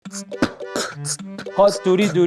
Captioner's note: si-wan is beatboxing